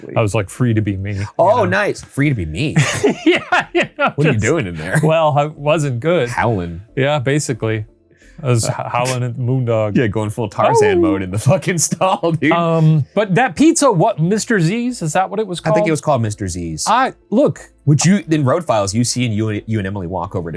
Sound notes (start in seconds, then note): 2.7 laughs; 10.6 howling